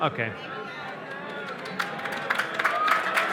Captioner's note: applause